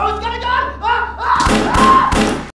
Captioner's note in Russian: выстрелы